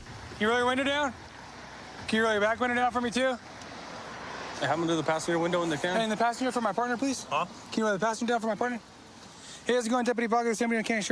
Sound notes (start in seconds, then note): none